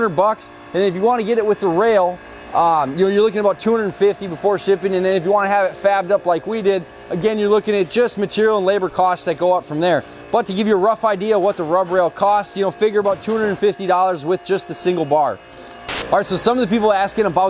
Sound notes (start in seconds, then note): 15.9 static